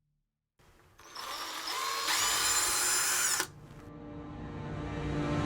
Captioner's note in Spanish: zumbido del taladro